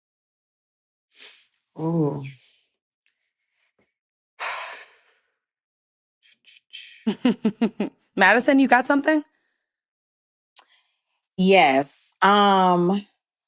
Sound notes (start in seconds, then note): 5.9 sighs; 7.0 chuckles